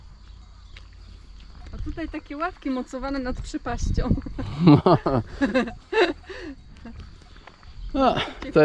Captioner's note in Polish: śmiech